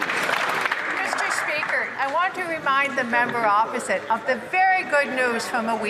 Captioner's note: some Applause